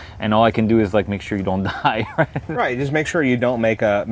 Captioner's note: laughs